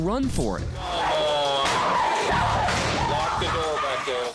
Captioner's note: screaming